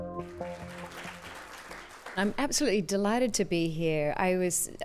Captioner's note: applause